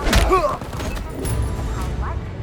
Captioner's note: groaning